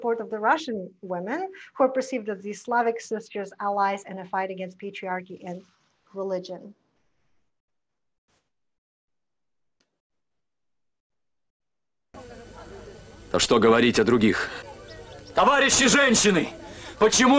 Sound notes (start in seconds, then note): 13.4 foreign language